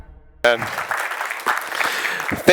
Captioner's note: applause